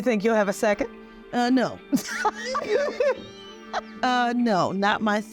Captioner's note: laughing